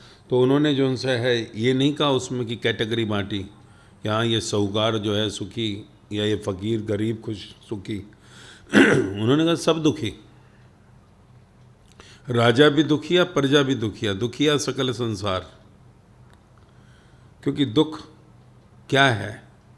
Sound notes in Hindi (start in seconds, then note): 8.7 गला साफ़ करने की आवाज़